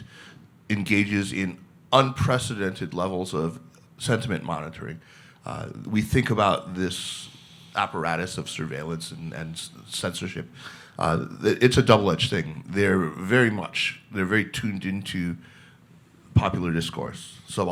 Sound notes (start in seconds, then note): none